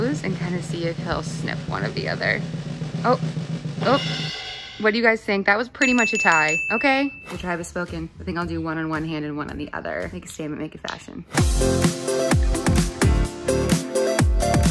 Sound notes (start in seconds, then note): 5.8 bell dings; 11.2 upbeat music